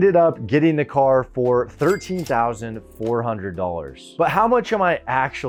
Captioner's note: cash register dings